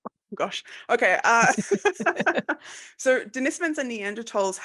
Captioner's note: laughs